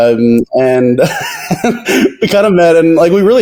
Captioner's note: laughs